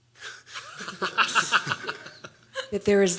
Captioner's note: laughs